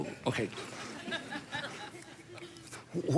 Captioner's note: congregation laughing